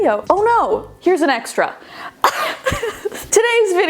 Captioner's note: coughs